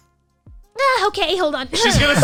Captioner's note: clears throat